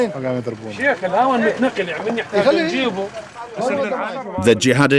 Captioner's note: Arabic spoken audio